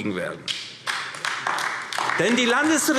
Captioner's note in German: Vereinzelter Beifall AfD